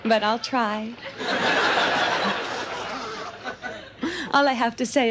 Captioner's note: audience laughs